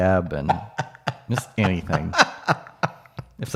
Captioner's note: chuckling